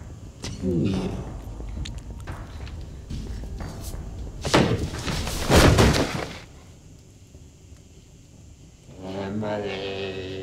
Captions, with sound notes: - Do you? (kick thumps) Emily.